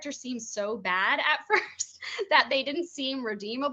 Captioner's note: chuckling